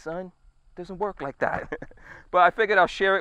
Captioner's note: chuckling